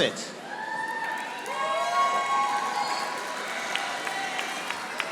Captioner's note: audience applauding